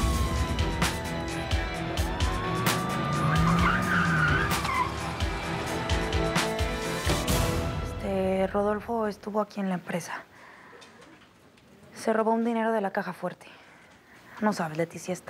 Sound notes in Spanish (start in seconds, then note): 3.1 Sirenas; 3.8 Chirrido de neumáticos